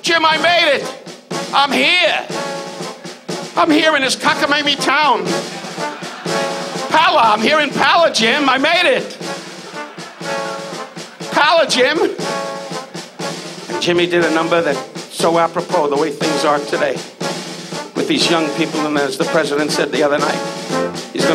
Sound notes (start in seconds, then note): 8.7 audience laughs